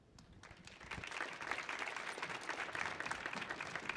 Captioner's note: audience applauds